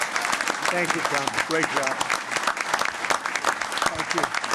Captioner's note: applause